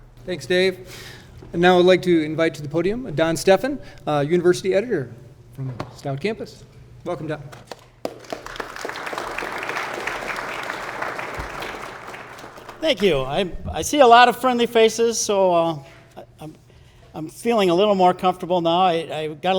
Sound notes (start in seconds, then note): 7.7 all applauding